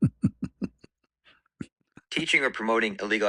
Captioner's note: ketawa